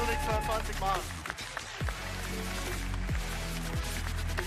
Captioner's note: applause